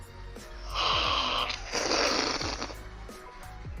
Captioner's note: slurping